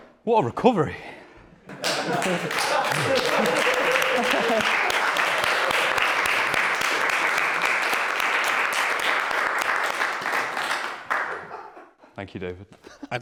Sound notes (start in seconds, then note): 1.7 applause